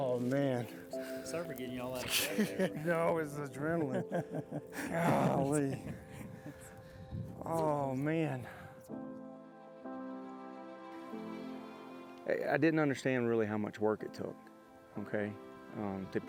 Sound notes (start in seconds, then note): 4.6 laughing together